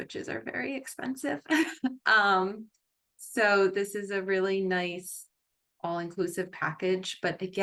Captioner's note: chuckles